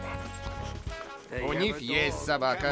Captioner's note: panting; sniffing